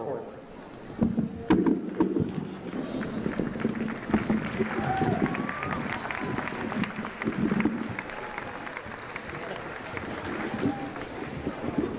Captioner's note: applause